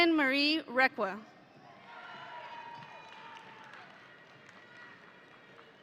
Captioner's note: audience cheering